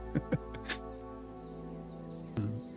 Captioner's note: laughter